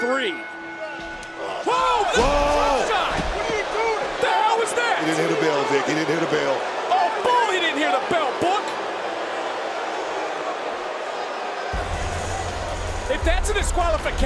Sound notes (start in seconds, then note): 0.0 bell rings; 7.6 crowd boos